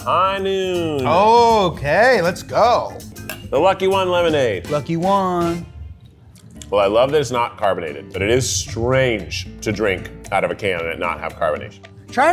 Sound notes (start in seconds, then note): 2.9 glass clinks